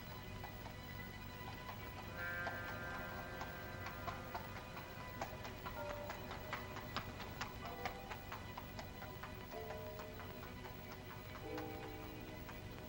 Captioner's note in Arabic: موسيقى هادئة متوترة; حوافر الخيول تركض بهدوء; موسيقى هادئة متوترة